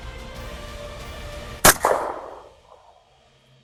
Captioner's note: gunshot